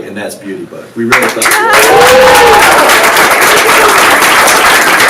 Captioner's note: audiences applauds